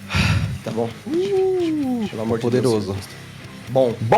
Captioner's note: whispering